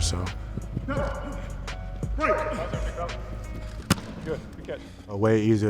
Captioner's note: coach yelling instructions